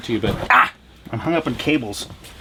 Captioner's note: exclaims